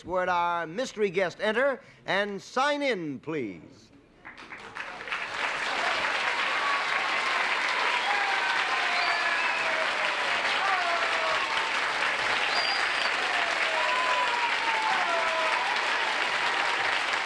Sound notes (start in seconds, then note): 8.5 applause